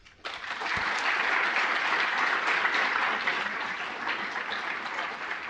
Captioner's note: applause